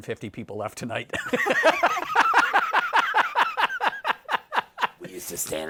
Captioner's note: laughter